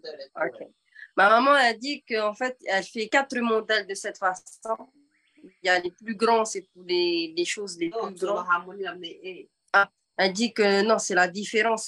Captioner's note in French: et sa mère parlent paumotu; En français